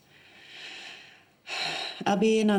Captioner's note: sighs